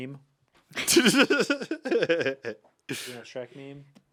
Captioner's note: Anthony laughs